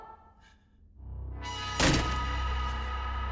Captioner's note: frightening music; slamming